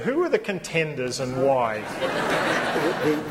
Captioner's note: laughter